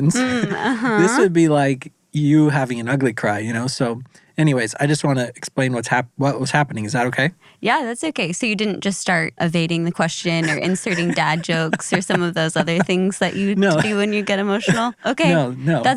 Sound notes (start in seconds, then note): 10.2 laughs